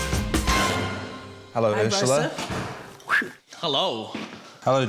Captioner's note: whistles sharply